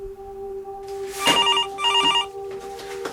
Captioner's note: phone ringing